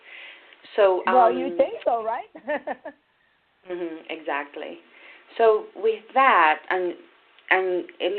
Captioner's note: chuckles